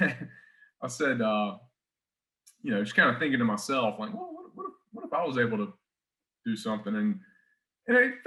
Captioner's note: chuckles